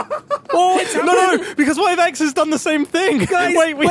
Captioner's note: startled laughter